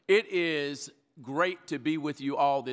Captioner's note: none